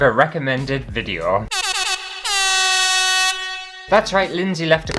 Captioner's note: air Horn